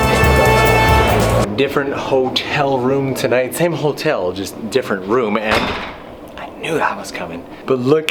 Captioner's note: door shuts